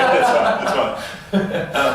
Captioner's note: laughter